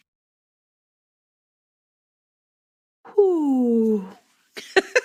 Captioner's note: laughs